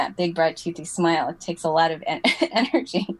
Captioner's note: laugh